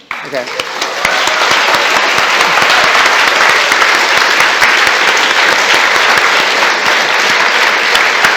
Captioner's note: applause and cheering